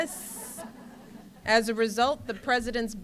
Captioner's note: laughter